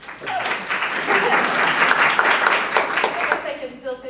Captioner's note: applause